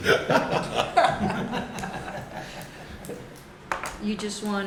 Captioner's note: laughter